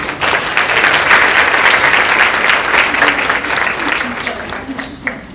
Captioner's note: audience applauding